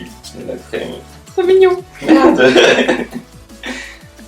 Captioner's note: both laugh